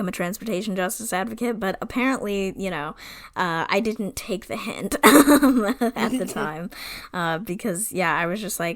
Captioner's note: laughs